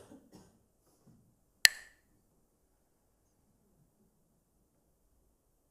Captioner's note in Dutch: klakt met stokjes